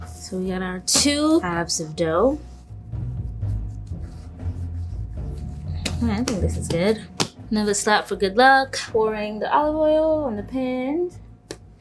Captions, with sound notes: So we got our two halves of dough. I think this is good. [slapping dough] Another slap for good luck. Pouring the olive oil on the pan.